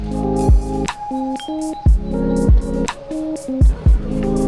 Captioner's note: haha